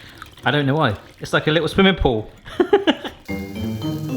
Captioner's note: laughs; bouncy music